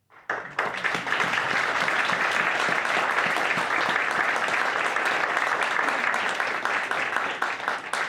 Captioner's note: applause